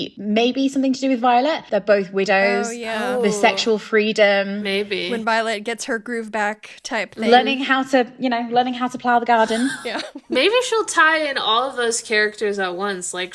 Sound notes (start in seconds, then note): 9.4 laughing